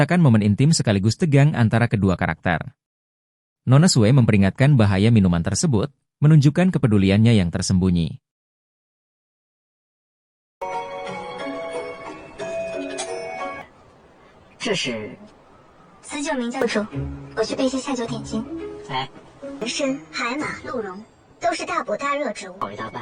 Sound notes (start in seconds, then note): 12.4 clap